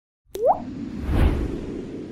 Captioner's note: drops of water; wind